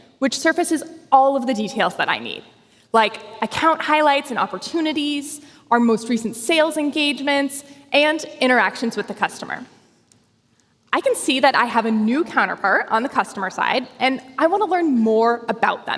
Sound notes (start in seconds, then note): none